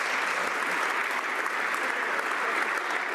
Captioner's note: some Applause